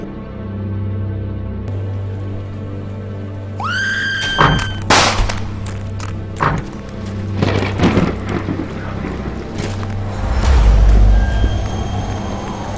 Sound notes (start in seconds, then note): 0.3 suspenseful music; 3.6 woman screaming; 4.2 gun blasting; 7.5 thunder cracking; 10.2 wind blowing